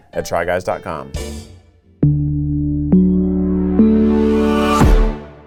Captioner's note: stomps once more